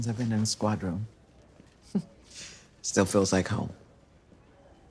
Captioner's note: chuckles